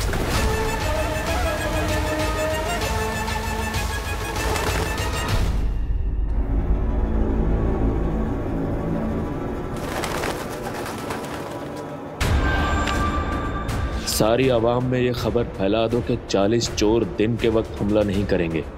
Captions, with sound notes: [sinister music playing] [wings flapping] 'Make it known to the public' 'that the forty thieves will not attack during daytime.'